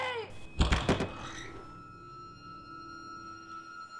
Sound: door Violently Opens

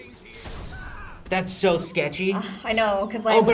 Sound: sighs

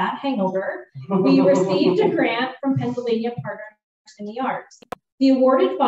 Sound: laughter

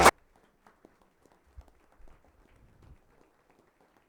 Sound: all applauding

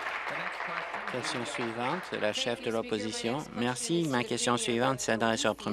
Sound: applause

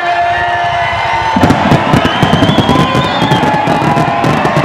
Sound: fireworks sound

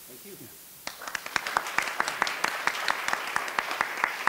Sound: applause

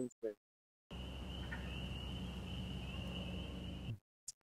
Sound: nature sounds

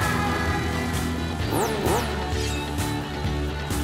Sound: engine revving

